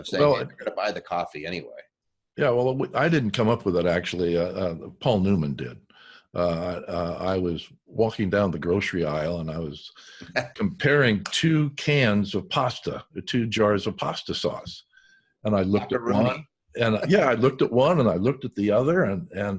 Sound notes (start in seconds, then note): 11.2 laughing